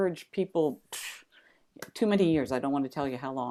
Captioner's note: exhales